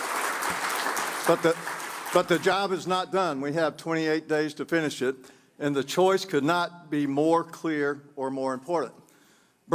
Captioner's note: applause